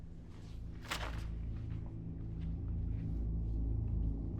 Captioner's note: papers rustling; soft dramatic music